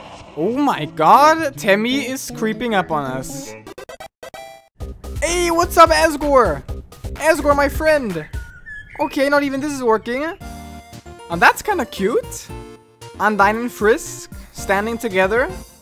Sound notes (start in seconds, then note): 3.7 win sound effect